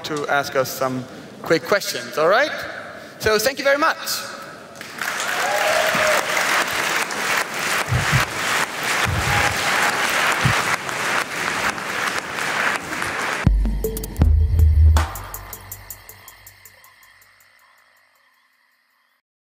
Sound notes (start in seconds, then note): 4.7 applause; 13.4 forest ambience with rhythmic beats